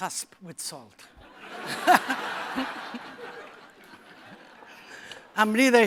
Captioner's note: laughter